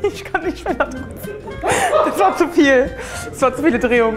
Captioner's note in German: lacht